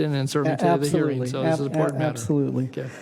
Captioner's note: laughing